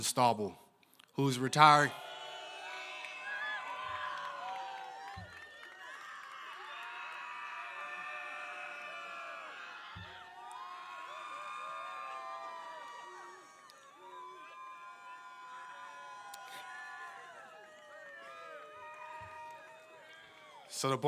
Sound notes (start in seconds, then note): 12.6 applause